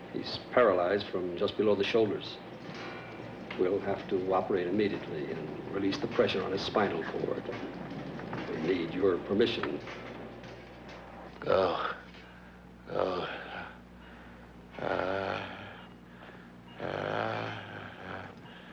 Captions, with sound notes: He's paralyzed from just below the shoulders. We'll have to operate immediately, and release the pressure on his spinal cord. We need your permission. - Oh. (patient monitor beeping) Oh. Ah... Ah...